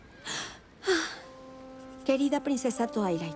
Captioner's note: sigh